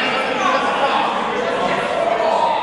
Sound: gibberish, chatter

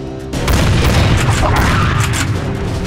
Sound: bang-bang, bang; military drumbeat

